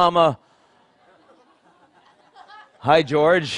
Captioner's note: Laughter; 笑聲